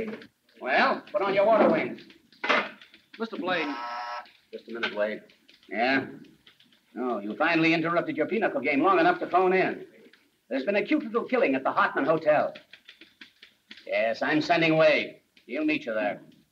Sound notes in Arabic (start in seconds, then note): 3.5 رنين هاتف داخلي